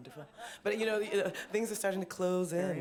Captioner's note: laughter